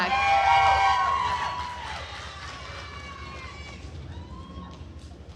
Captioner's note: attendees cheering and applauding